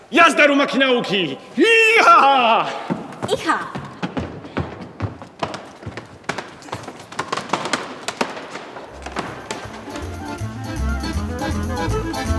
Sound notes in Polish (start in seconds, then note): 4.7 tupanie